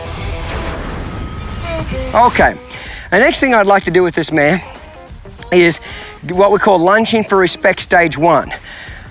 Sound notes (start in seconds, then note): 0.0 shimmering; 1.9 mellow country music